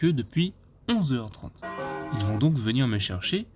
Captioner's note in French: bruit de cloche